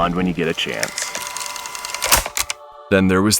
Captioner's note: tape stops